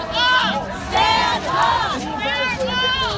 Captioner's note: crowd Repeating